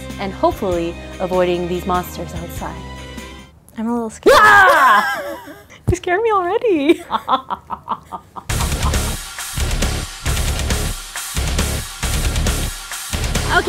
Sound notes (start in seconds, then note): 6.9 evil laughing; 8.5 metal music